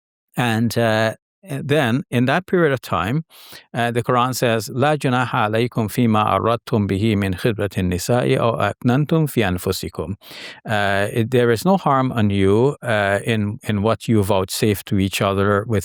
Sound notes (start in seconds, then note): 4.7 speaking in Arabic